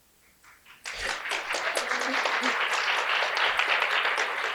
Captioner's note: applause